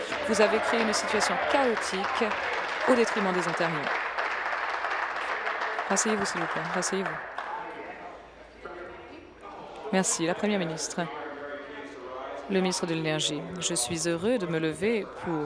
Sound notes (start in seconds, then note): 5.1 applause